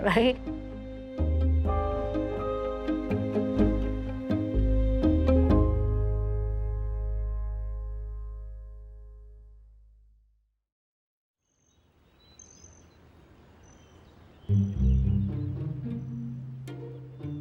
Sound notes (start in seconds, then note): 2.0 rhythmic music continues; 11.5 birds chirping; 14.4 gentle music